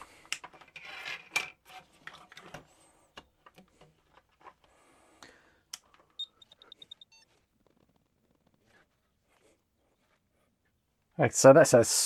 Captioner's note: silence